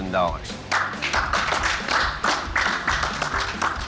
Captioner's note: applause